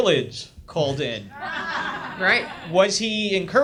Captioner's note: audience laughs